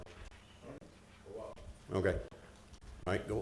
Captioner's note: staff members talking quietly